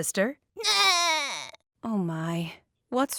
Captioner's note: crying